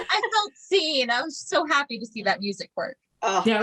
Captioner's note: appreciation noises